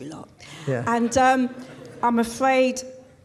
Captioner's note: crowd laughs